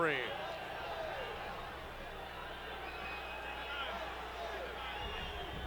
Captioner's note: audience chattering